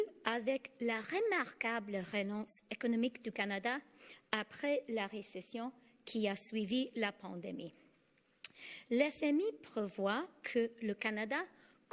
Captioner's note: speaking French